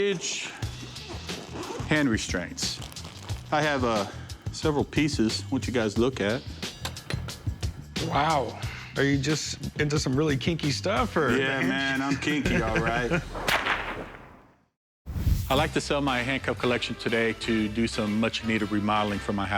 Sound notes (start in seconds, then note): 0.6 unzipping; 12.1 laughs; 13.3 whipping